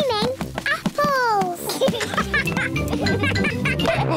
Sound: both laugh; chuckles and oinks

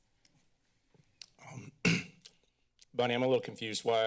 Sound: clears throat

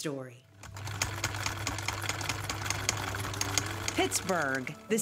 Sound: film reel rolling

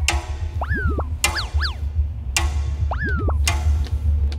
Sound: pat

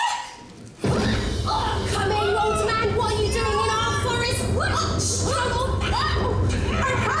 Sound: sounds of a struggle

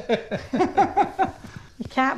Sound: laughing

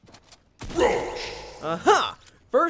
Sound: sound effect

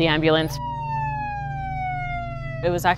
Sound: siren

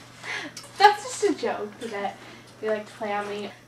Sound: chickling

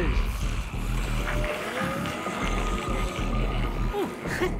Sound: growling

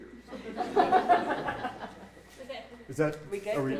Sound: audience laughing

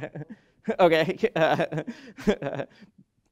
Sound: laughs

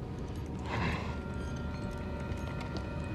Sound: angry sigh

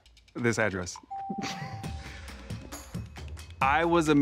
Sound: bell ringing

